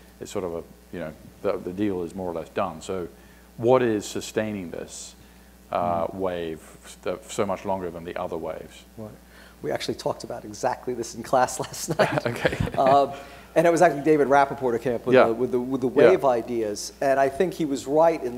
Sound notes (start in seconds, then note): 11.6 laughs